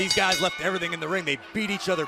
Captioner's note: bell